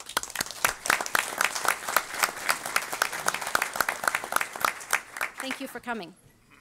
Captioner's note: audience applause